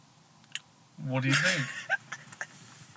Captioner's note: laughter